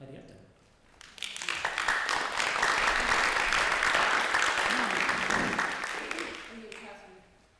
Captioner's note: applause